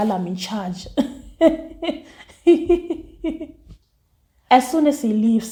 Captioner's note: laughs